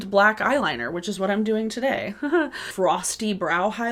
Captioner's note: chuckles